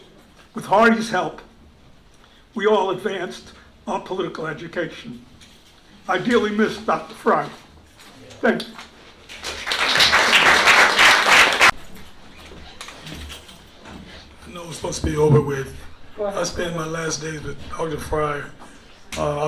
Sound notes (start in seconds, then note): 9.2 applause